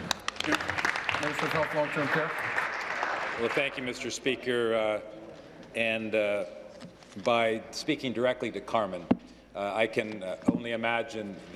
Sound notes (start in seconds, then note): 4.4 applause